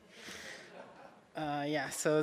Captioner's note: soft audience laughs